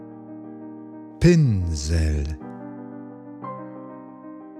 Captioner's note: german